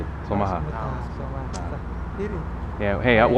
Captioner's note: somali